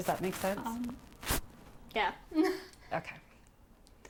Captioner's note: giggling